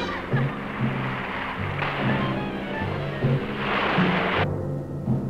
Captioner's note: water splashing